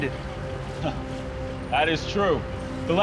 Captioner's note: laughs